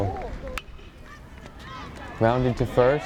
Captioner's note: bat pings